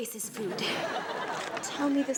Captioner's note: audience laughs